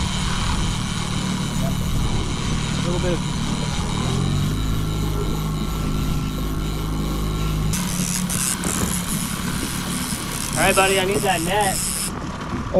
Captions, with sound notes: He jumping? - A little bit. (boat engine rumbles) (reels clicking) - All right buddy, I need that net.